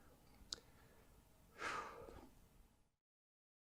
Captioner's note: sighs